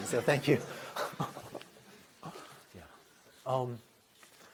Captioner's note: laughter